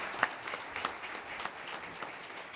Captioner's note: applause